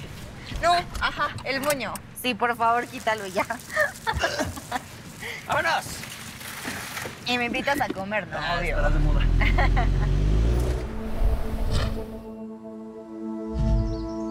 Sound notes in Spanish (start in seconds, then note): 4.4 Ríe